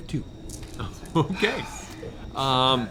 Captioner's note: laughing